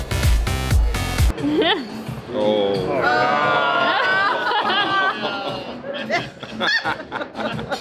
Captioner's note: laughing